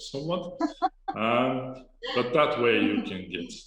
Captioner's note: laughs